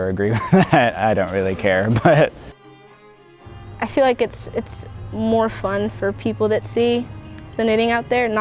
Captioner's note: laughs